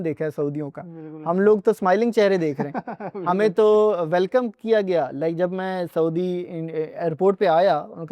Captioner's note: laughter